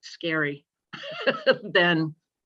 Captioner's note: laughter